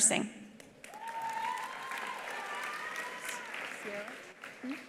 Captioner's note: attendees applauding; attendees cheering